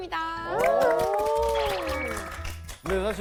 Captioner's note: everyone claps